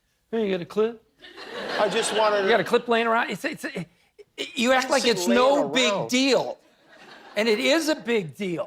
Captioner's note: laughter